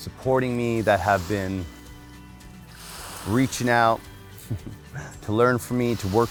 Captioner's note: chuckles